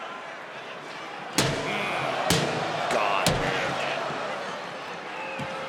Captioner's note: crowd chattering; garbage can thudding; crowd chattering